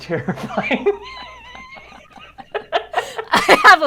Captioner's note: both laugh